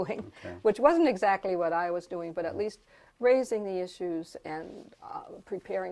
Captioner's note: laugh